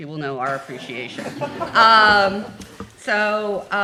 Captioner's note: laughing